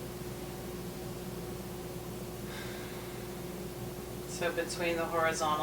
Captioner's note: inhaling and exhaling